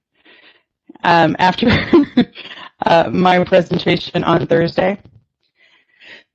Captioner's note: chuckling